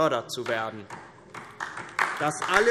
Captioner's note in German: Beifall DIE LINKE